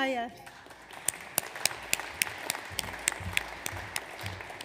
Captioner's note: audience applauds